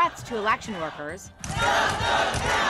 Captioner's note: crowd